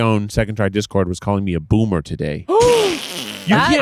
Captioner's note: gasping